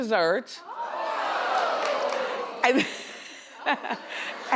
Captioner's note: crowd yells